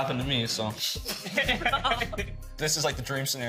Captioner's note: laughing